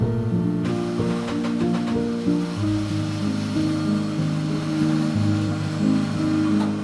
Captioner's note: power tools in background